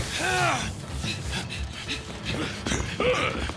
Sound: grunting; panting; grunt

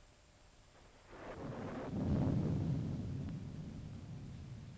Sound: thunder rumbling

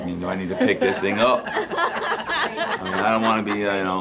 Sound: nurses laugh

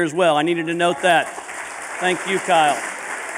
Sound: applause

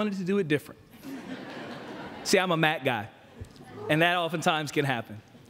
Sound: laughter

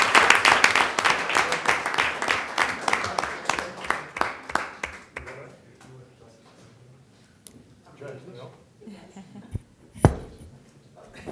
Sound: applause

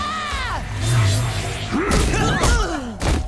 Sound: screaming; grunting

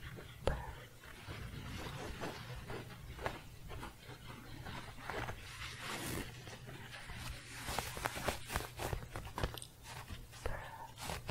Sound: scratching

